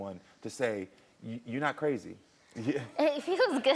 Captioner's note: laughs